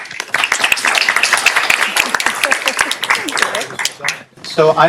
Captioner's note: applause